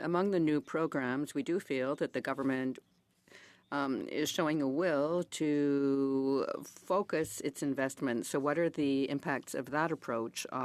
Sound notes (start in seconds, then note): 3.6 speaking in French